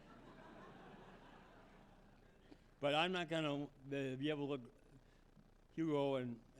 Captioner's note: laughter